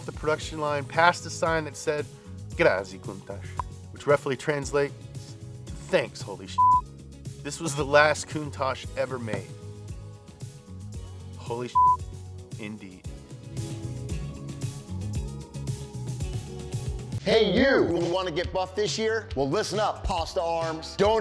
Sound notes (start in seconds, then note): 6.6 beep; 11.7 beep; 13.4 upbeat music